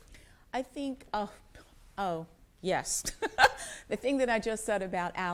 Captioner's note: laughs